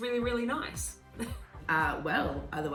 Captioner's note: chuckling